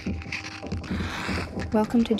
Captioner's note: match strike